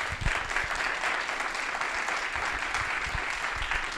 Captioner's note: applause